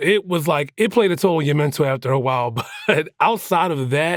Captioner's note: chuckles